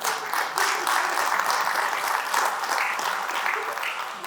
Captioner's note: claps; laughs